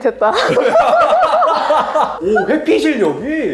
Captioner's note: laughs